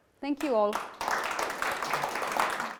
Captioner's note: applauding